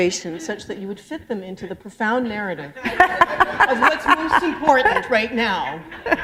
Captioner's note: laugher